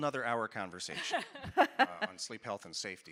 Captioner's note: laughing